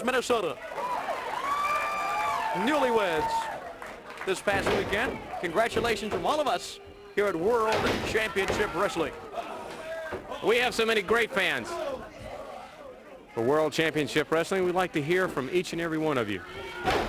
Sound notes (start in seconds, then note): 3.4 crowd cheering